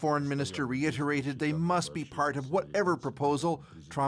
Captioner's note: speaking alternate language